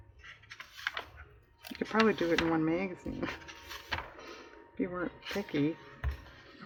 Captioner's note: laughs